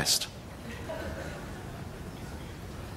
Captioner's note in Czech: smích